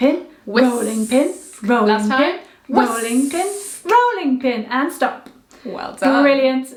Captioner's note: whisk